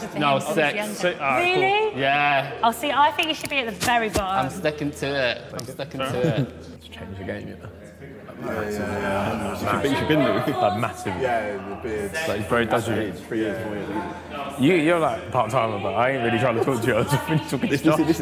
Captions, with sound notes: - Really? - Yeah. - I think you should be at the very bottom. - I'm stepping to it, I'm stepping to it. (guys mumbling)